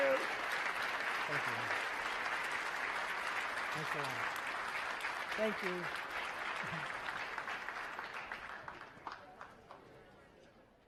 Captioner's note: applause